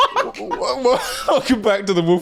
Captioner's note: laughing